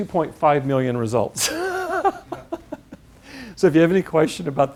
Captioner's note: laugh